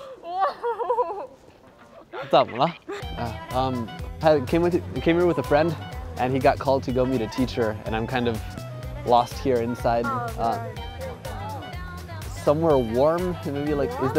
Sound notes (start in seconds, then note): 2.5 speaking in foreign language